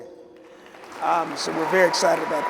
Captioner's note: applause